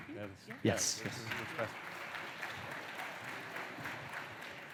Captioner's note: applause